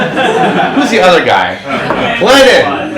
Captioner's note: audience laughs; overlapping chatter